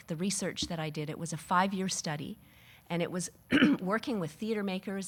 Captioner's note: clearing throat